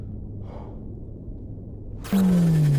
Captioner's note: Aciris sighs; energy pulsing